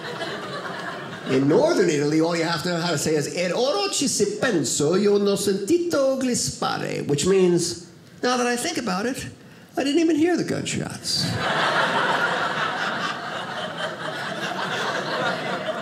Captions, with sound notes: In Northern Italy, all you have to know how to say is (speaks in Italian), which means, "Now that I think about it, "I didn't even hear the gunshots." (audience laughing)